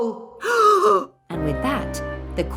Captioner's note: gasp!